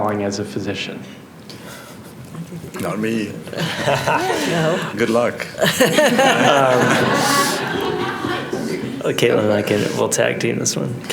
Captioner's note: laughter